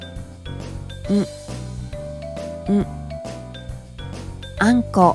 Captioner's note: ng-sound